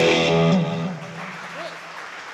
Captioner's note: applause